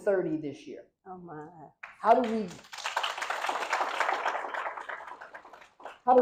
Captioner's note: applause